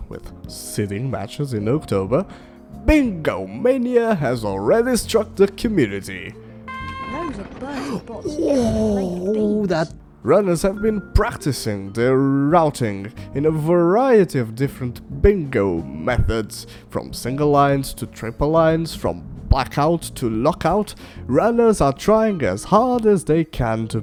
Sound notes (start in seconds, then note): 6.6 screaming